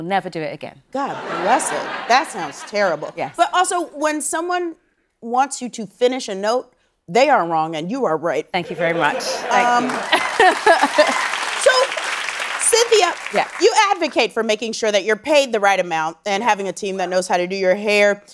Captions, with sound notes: God bless it, that sounds terrible. - Yes. - But also, when someone wants you to finish a note, they are wrong and you are right. Thank you very much, thank you. [laughing] [cheering and applause] - So, Cynthia-- - Yes. You advocate for making sure that you're paid the right amount, and having a team that knows how to do your hair, makeup,